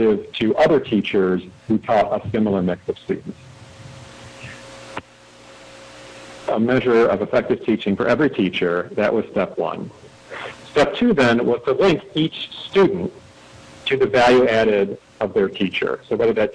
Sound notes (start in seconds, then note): 6.2 audio cutting in/out